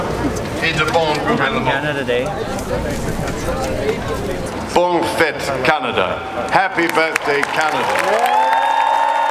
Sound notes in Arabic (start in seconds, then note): 5.2 يتحدث بلغة أجنبية